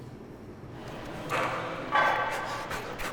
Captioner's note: weights clanking; heavy quick puffing